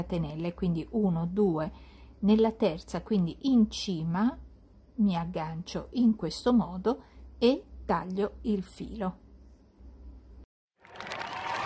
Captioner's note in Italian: Applauso